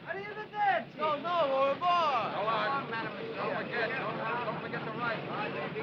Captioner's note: speaking foreign language